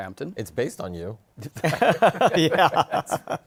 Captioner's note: laughter